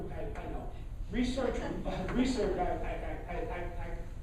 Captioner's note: laughing